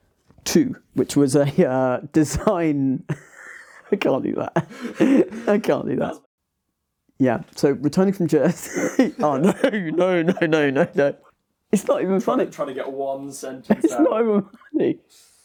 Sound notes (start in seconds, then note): 3.0 laughs; 8.4 laughs